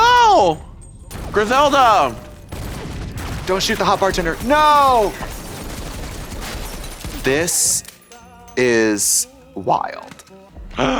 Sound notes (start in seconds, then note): 1.0 guns shots; 5.5 glass breaks; 5.5 guns shots